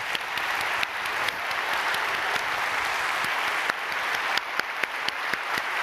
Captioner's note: applauding